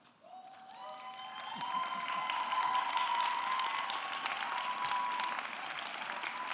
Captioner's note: audience clapping; audience cheering